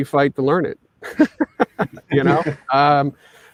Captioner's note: all laughing